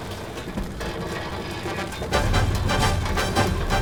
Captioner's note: none